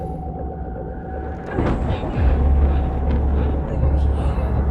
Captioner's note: thunder